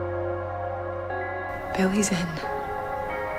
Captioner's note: voiceover